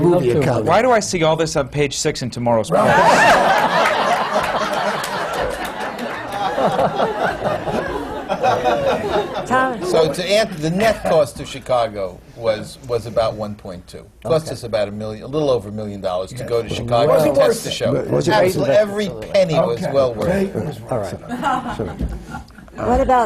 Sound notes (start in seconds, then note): 0.2 laughter; 12.4 laughter; 21.1 laughter